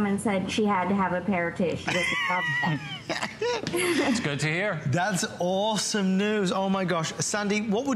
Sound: laughter

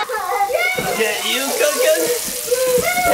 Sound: children laughing; pan sizzling

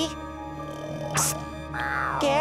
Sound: snoring

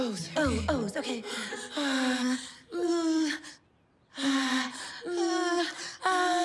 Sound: breathing in unison

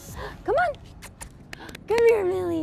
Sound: kissing noises

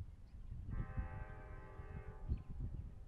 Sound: train horn

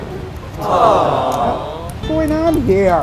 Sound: crowd

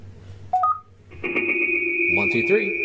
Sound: high pitched ring

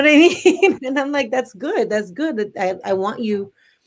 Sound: laughs

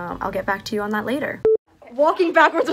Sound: note beeps

